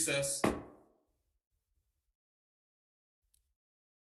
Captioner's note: gavel taps